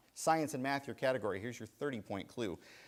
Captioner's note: none